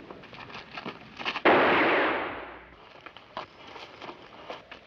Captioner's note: gunshot bangs